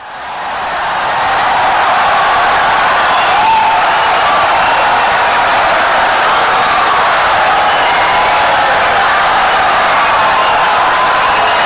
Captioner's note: wild applause and cheering for 17 seconds